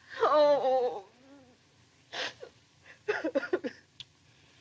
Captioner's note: sobs